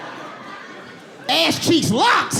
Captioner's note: audience laughing